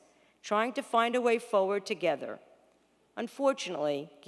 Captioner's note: none